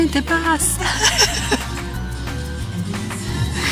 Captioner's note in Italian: risata